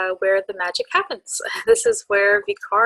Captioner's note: laughs